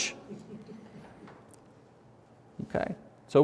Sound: audience laughs

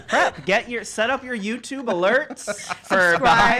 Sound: laughs

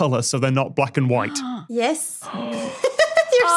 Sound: gasp

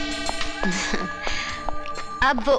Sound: chuckles

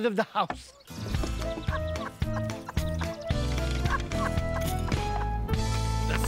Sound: laughing

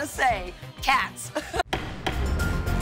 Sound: laughs

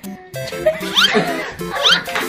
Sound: laughs

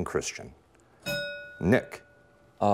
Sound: bell rings

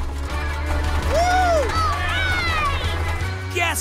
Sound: cheering

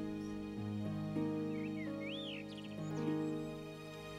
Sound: birds chirping; song ends

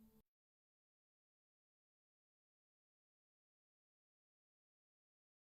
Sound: silence

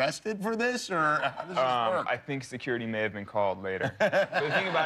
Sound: laughter

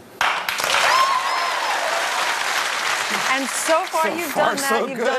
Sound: audience Clapping

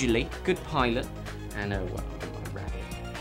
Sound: mumbles

